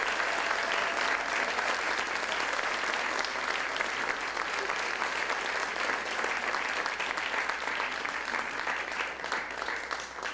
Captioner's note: applause